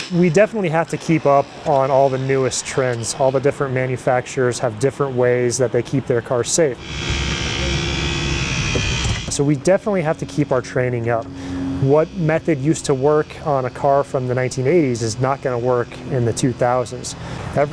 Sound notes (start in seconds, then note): 7.2 cutters humming